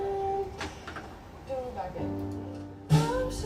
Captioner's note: hums